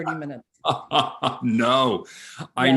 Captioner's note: laughing